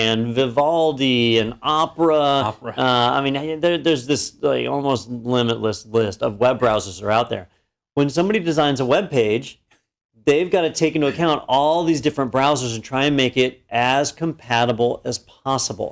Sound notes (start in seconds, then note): 2.2 laugh